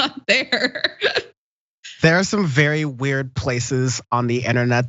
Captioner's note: laugh